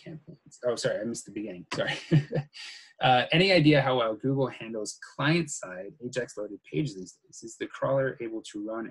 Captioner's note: muttering